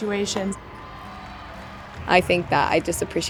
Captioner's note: crowd cheering